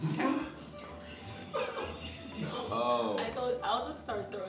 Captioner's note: laughter